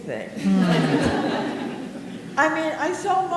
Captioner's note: audience laughing